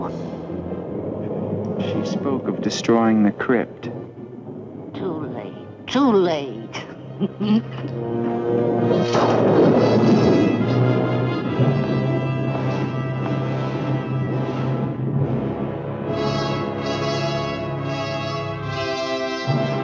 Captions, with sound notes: - She spoke of destroying the crypt. - Too late, too late. (chuckles) (thunder crashing) (ominous music)